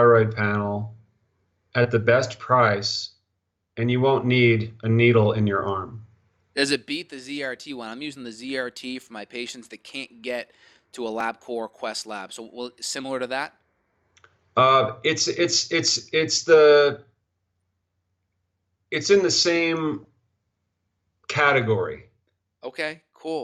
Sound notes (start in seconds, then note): 15.9 stuttering